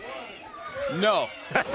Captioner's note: crowd chatter